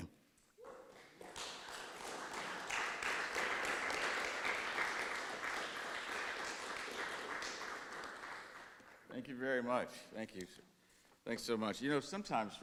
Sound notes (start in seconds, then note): 2.2 audience claps